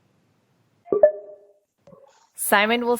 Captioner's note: dings